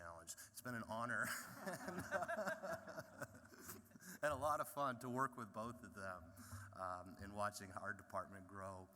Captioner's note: laughter